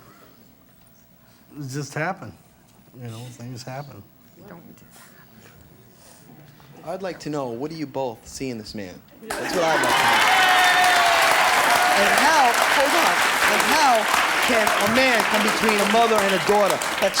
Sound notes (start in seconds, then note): 11.6 audience applause